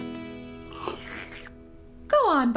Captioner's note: slurps